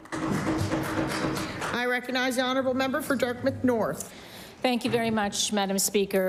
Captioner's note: applause